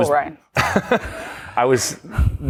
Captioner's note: laughter